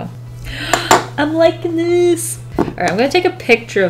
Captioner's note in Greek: Κοφτή ανάσα